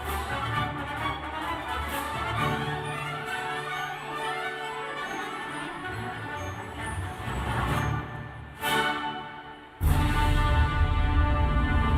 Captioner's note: cheers and applause